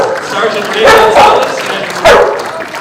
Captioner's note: applause